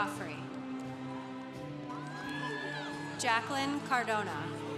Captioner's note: congregation applauding